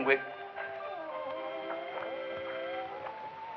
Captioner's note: girl sobbing